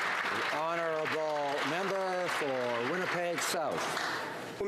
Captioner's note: some Applause